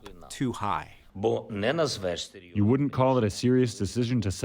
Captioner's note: through translator